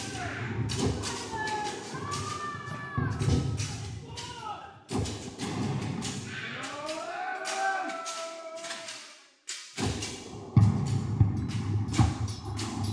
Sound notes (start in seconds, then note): 0.2 screaming and roaring dies down; 7.5 pirates roar; 9.9 canon shots; 9.9 swords clanking